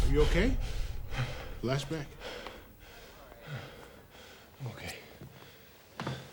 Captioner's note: Stephen breathing heavily